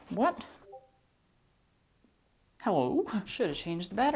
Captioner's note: computer blip sound